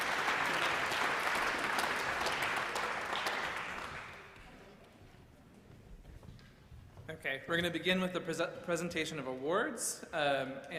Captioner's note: applause